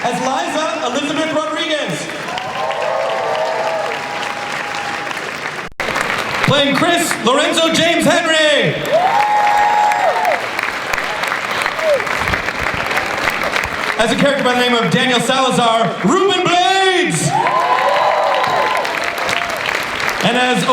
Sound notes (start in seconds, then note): 2.8 cheering and applause; 9.2 cheering and applause; 17.3 cheering and applause